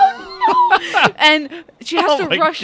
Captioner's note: laughs